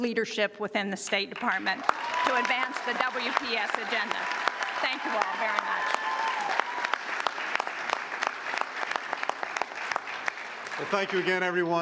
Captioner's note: cheers and applause